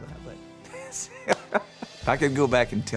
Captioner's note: laughing